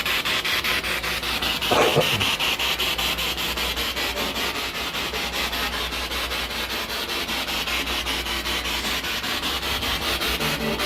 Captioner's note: radio noise from the spirit box